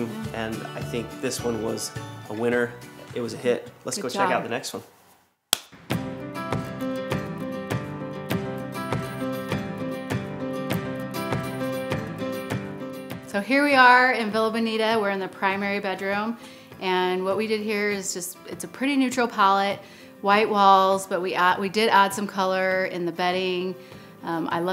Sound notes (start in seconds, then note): 5.5 hands clap; 5.8 upbeat music